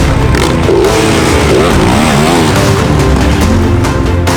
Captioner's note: engine revving